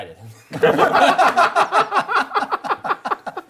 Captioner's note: laughing